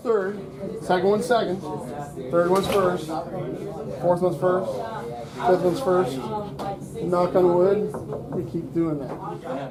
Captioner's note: sounds of students talking and working in classroom